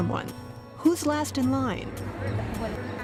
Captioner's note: speaking spanish